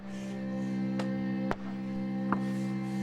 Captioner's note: hammering sounds